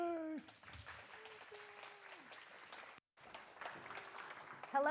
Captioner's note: audience applauding